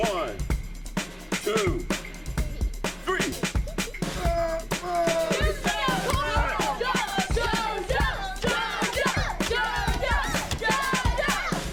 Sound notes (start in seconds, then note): 4.1 grunts; 6.4 kids cheering